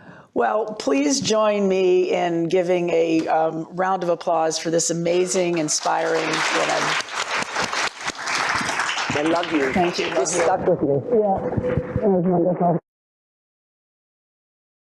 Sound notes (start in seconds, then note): 7.1 applause